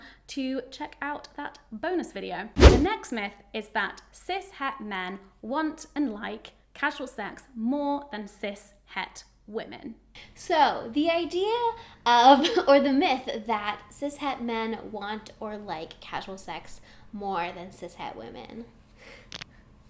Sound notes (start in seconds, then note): 2.6 air whooshing; 19.3 cracks knuckles